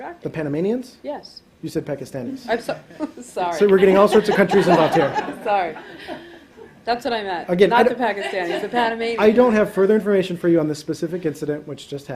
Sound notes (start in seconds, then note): 6.0 laughter